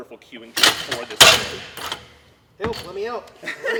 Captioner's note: barbell lands back on rack